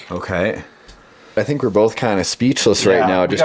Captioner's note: voiceover